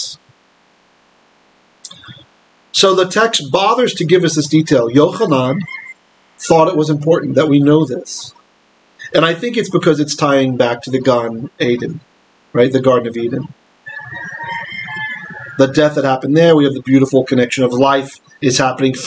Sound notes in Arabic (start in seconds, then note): 10.6 بالعبرية